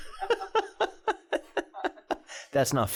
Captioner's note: laughing